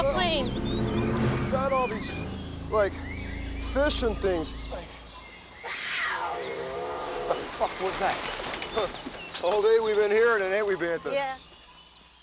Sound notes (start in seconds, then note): 6.1 animals growls